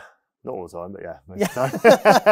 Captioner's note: laughs